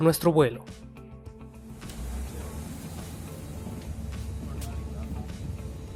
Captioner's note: airport Noises